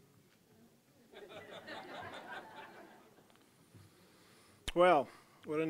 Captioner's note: audience laughing